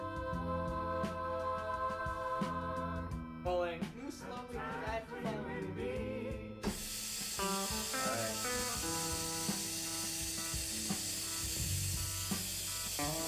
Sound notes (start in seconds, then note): 6.7 water running